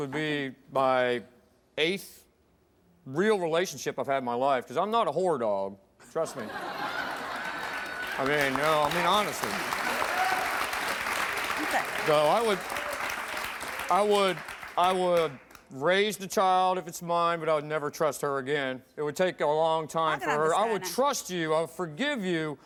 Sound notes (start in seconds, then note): 6.3 audience laughs; 8.7 audience applauds